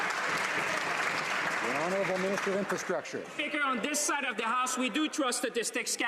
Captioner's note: some Applause